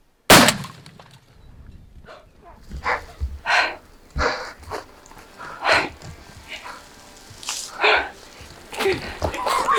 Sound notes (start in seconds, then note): 0.3 gunshot; 3.3 loud breathing